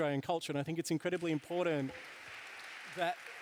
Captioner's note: applause